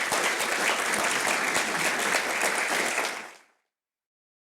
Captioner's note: applause